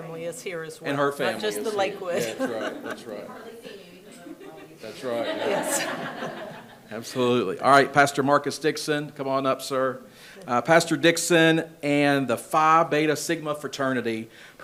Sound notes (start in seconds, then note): 6.1 people laugh